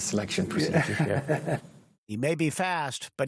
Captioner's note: laughter